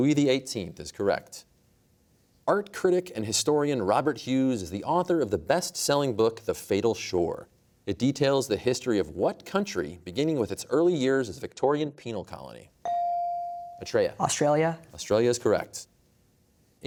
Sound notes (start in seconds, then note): none